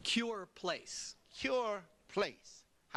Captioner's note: none